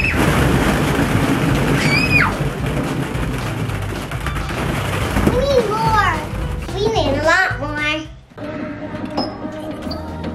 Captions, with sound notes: (screams) (screams) - We need more. We need a lot more.